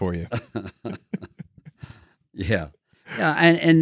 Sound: laughing

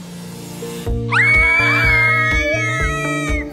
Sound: multiple people screaming

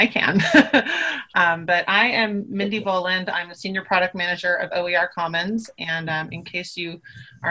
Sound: laughs

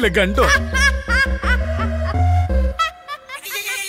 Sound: laughs

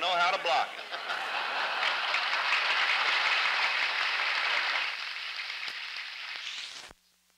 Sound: laughter, applause

